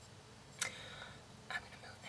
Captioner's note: takes a deep breath; whispers